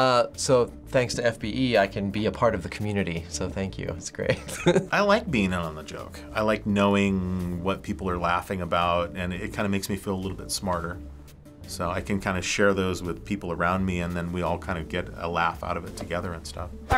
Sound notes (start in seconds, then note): 4.2 chuckles